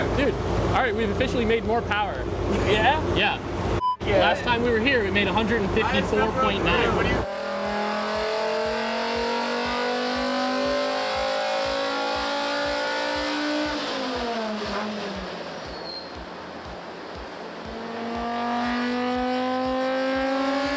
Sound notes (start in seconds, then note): 3.8 beep; 7.4 car engine roaring